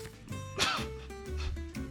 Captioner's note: Ayo laughs; playful music continues